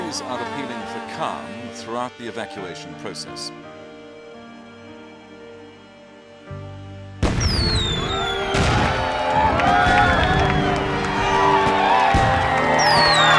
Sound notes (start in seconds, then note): 7.2 fireworks exploding; 10.6 crowd cheering